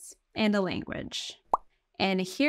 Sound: text overlay blooping

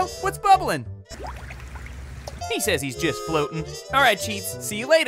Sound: water bubbling

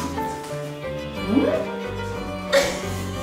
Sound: laughing

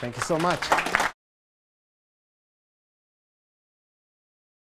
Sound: audience applauds

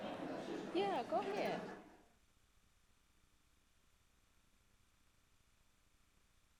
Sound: people chattering indistinctly

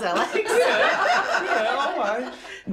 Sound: laughter

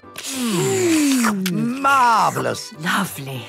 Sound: slurping

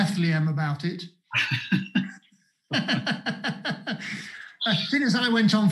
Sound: laughter

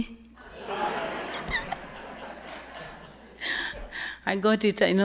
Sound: audience laughing

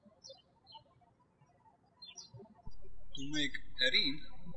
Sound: birds chirping

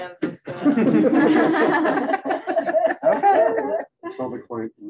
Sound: laughter

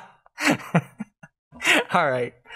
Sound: laughter

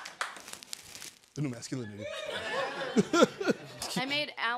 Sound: chuckling

